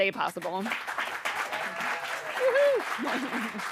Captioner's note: audience applauding